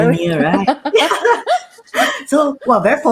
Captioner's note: laughing